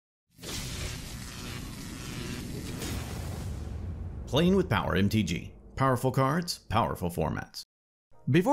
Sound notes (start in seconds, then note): 0.4 electricity Buzzing